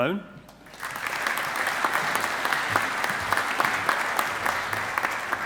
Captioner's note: audience applauding